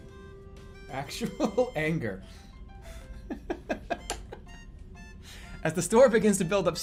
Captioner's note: laughing